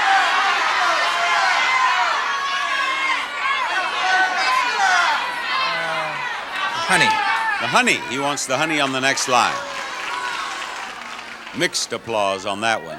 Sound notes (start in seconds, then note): 0.1 audience yells suggestions; 9.9 audience applauds; 9.9 audience groans